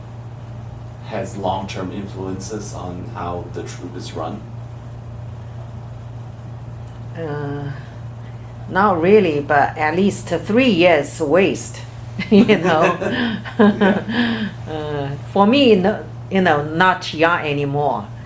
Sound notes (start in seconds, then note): 12.2 laughs